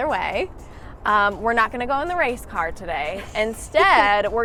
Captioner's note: laughs